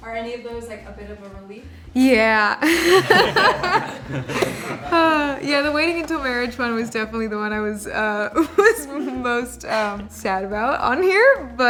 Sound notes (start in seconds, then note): 2.6 all laughing